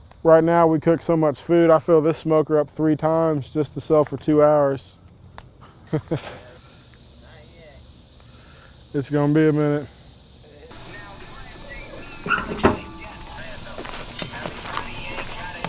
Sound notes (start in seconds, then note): 5.7 chuckles; 10.7 upbeat rap music